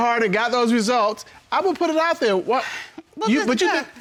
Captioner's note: exhales